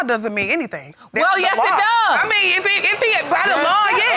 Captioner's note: audience gasps